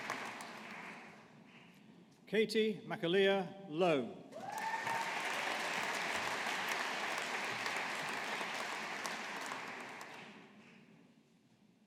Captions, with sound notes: Katie McAleer Lowe. (AUDIENCE APPLAUDING)